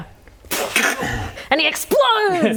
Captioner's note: snap